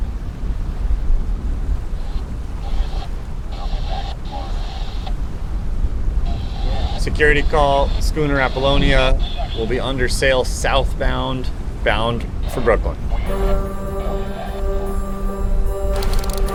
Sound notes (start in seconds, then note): 1.8 radio static hisses; 13.2 uplifting music